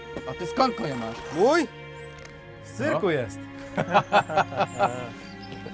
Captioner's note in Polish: śmiech żołnierzy